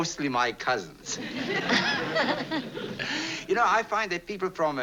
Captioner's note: both laugh